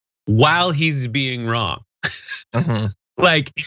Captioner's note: laugh